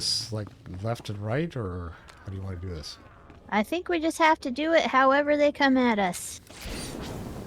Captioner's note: explosion